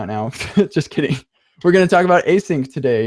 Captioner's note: laughs